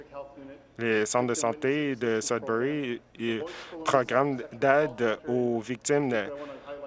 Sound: speaking french

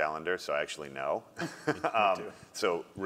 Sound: laugh

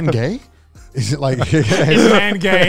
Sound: all laugh

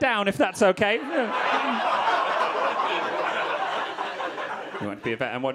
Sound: audience laughing

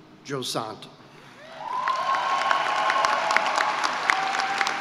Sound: cheering and applause

